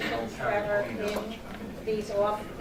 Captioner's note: chatter